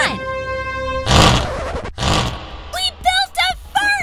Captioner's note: fart noise